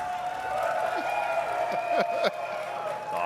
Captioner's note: audience cheering and clapping; chuckles